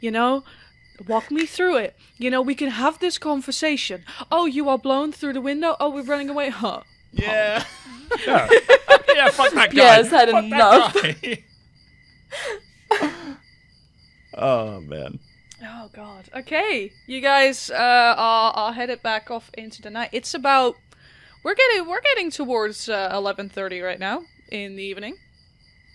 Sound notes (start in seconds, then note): 7.2 laughing; 7.2 laughter